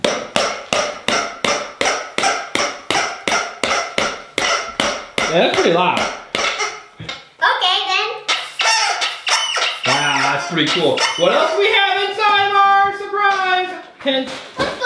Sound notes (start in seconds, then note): 0.2 banging and horn honking; 9.4 horn honking